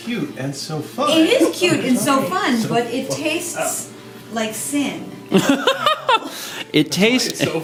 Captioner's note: laughs